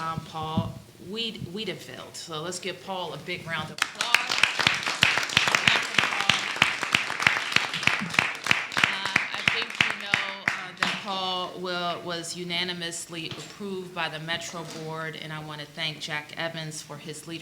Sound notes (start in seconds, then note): 5.4 applause